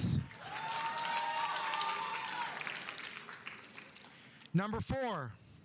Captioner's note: audience applauding; audience cheering